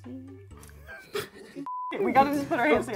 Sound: both laugh

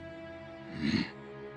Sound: grunting

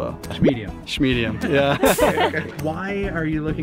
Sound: laughing

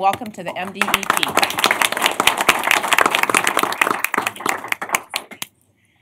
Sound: applause

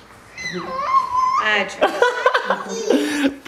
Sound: laughter And Children Yelling

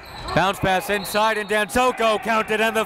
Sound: whistle

